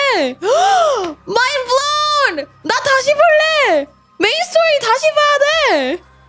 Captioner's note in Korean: 헉 소리